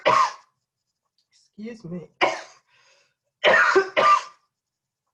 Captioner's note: coughing